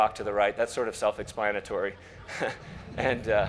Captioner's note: laughs